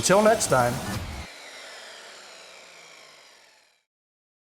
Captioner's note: saw revs down